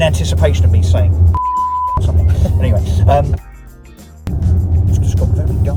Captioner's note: loud tone